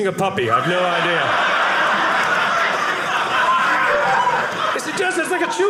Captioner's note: audience laughing